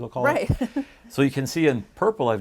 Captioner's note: chuckles